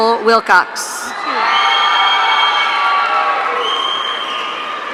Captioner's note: audience cheering